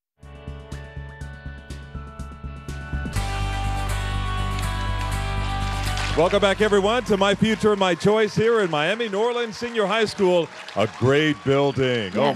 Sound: applause

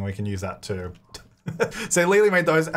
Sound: laughing

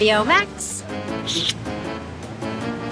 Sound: kissing sound

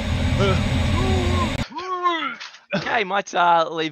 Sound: gagging

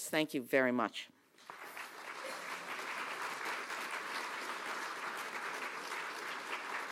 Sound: applause

